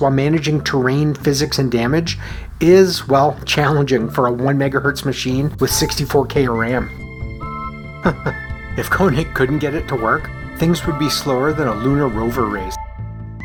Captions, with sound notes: while managing terrain, physics and damage is, well, challenging for a 1 MHz machine with 64K of RAM. [chuckles] If Koenig couldn’t get it to work, things would be slower than a lunar rover race.